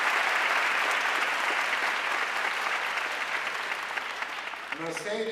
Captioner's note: audience cheering and applauding